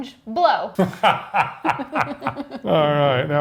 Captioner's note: both laugh